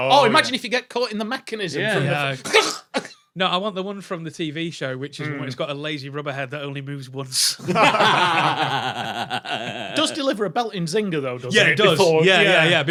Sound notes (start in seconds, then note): 2.4 chokes; 7.6 group laughing